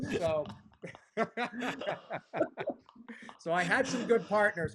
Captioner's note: laughter